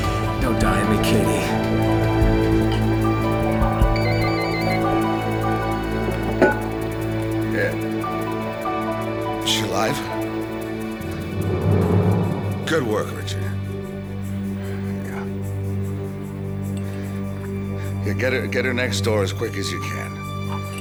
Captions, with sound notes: Don't die on me, Katie. (phone ringing) - Yeah. Is she alive? Good work, Richard. Yeah. Yeah, get her next door as quick as you can.